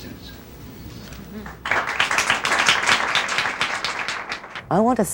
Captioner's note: applause